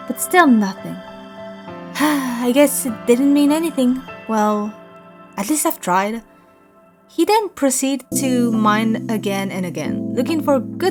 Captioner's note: sighs